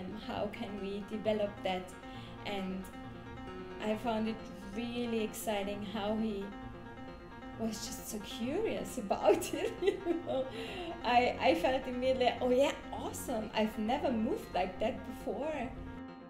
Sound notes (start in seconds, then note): 9.4 laughs